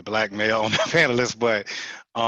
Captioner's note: laughter